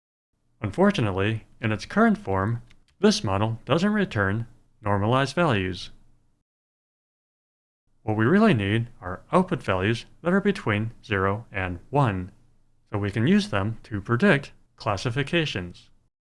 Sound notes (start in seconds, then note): none